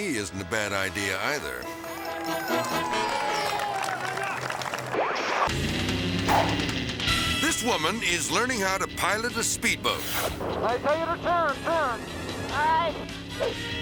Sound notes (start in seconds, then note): 1.6 crowd cheering; 4.9 transition whooping; 7.2 upbeat music